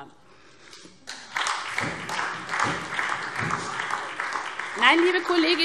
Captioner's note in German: Beifall SPD